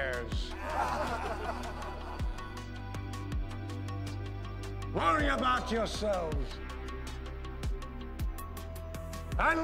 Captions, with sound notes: - [Crowd] (laughter) - Worry about yourselves,